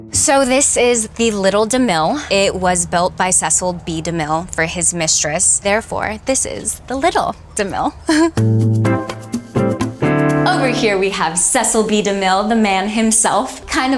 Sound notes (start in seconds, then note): 7.6 chuckles